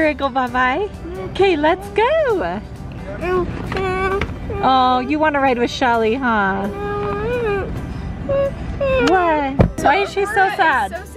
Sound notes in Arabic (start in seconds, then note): 3.6 تتمتم وتشتكي; 7.0 تتمتم بغضب